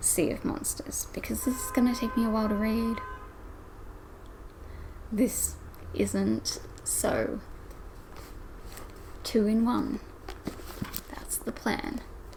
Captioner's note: loud car noises